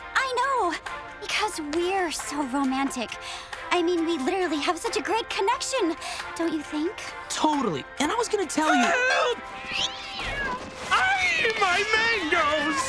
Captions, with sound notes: I know because we're so romantic. I mean, we literally have such a great connection, don't you think? Totally. And I was going to tell you-- Help! [yowling] Ah! My mangos!